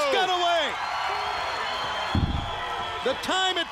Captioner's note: crowd cheering